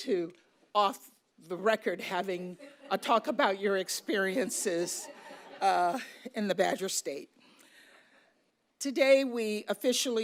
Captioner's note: laughter